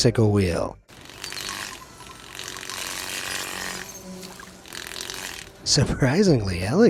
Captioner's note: wheel rattles